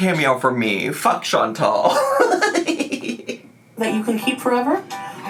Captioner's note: laughs